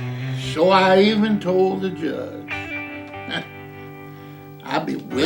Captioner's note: laughs